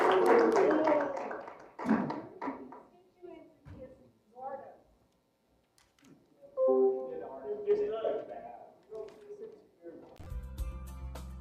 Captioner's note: applause